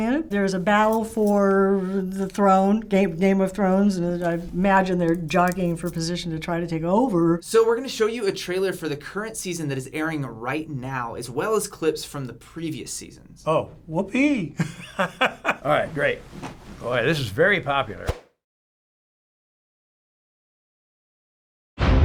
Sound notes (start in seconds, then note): 14.6 laughing; 18.1 silence